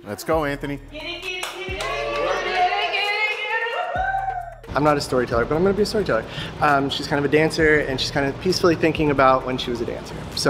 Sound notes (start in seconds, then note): 1.4 competitors cheering